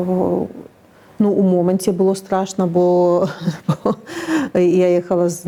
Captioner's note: laughs